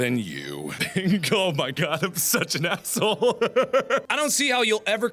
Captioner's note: maniacal laughter